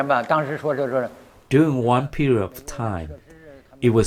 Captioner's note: speaking foreign language